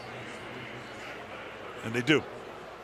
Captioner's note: pa announcement